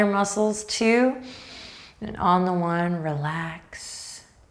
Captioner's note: breathing deeply